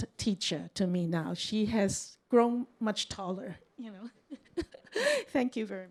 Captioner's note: chuckles